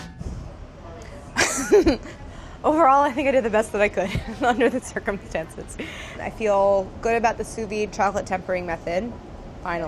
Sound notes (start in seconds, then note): 1.4 laughs